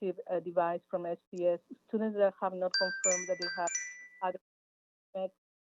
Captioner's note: chime